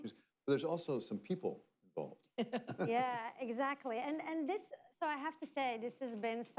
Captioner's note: laughter